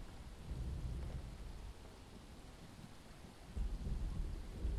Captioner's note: thunder rolling